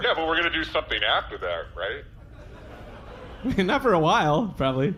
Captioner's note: audience laughing